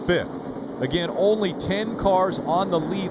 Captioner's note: engine revving